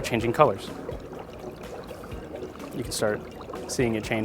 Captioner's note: bubbling